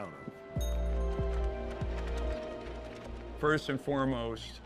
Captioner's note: bicycle bell ringing